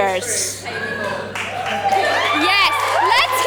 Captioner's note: audience cheers